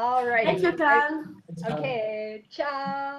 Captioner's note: speaking foreign language